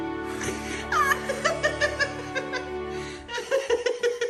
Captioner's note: wetting Himself Laughing